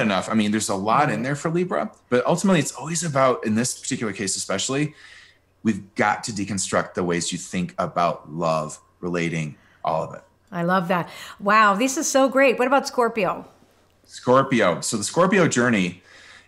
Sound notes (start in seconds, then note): none